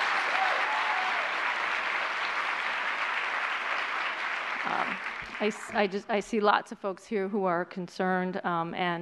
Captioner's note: applause